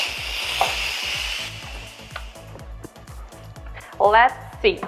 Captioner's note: steam disperses